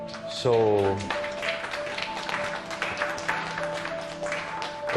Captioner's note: applause; soft music playing